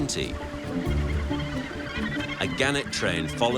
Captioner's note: gannets squawking